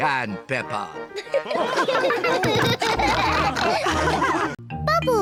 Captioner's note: chuckles; all laugh